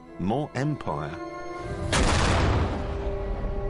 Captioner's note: gunshot